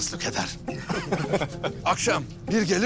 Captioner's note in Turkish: Gülme sesi